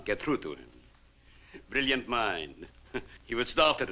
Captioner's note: chuckles